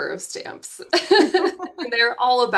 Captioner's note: both laughing